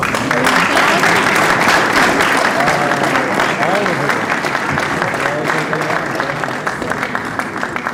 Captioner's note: applause